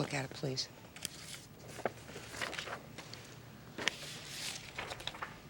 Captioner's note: papers rustling